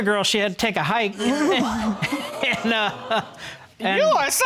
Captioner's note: laughing; chuckles